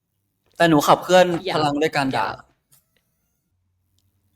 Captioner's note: in Thai